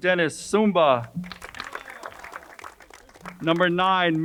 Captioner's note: crowd applauding